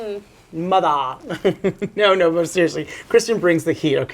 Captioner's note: giggles